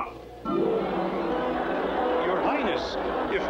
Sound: crowd Noises

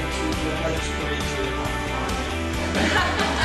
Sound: laughter

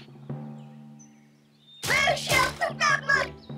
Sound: exclaims

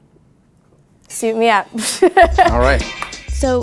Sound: laughs

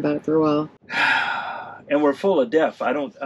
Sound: man sighs

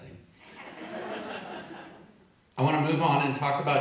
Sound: audience laughing

